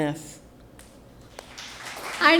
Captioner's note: applause